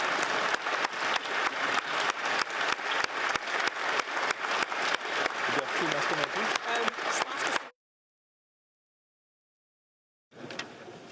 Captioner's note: applause